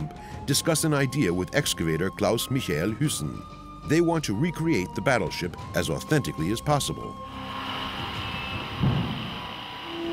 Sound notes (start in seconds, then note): 7.2 power saw whirring